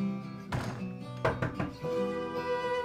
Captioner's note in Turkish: Kapı çalınıyor